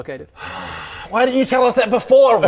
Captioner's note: sigh